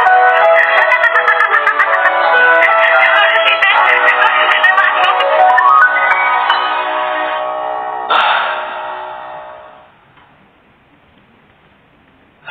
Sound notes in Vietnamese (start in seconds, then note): 2.0 Vỗ tay